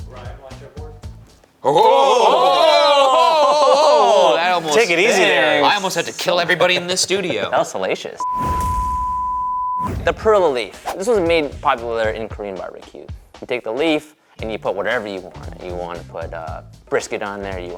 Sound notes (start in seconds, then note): 8.2 graphic beeping; 9.8 graphic whooshing